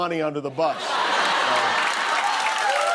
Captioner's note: laughter; cheers and applause